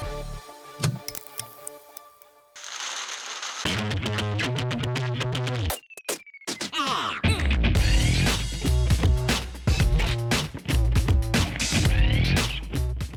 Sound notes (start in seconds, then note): 0.0 upbeat music; 2.6 paper crumpling